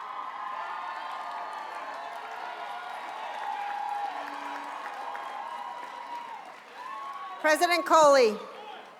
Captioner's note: cheers and applause